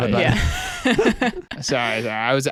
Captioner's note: laughs